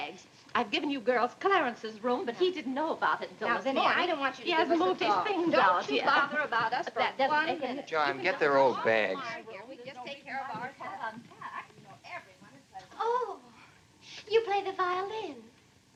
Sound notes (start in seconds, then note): 5.6 indistinct chatter; 9.5 chatter continues